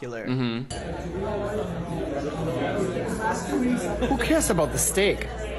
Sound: people chattering softly

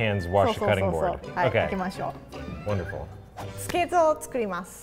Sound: speaks in foreign language

